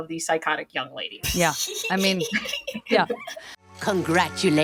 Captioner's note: she giggles